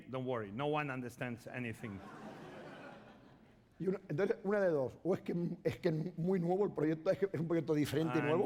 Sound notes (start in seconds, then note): 1.8 laughter; 5.5 speaking spanish